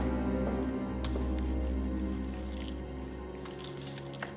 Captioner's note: metal clinking